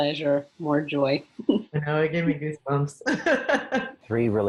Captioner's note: laughing